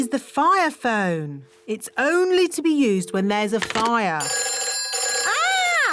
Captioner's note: phone rings